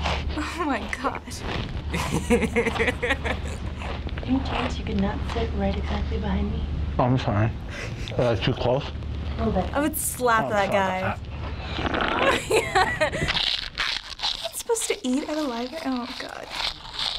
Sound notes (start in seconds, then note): 1.9 laughing; 7.7 stifled laughter; 11.3 slurps loudly; 11.7 cracks up; 13.0 loud crunching